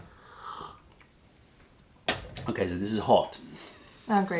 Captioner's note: sips tea